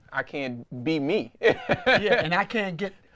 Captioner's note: chuckles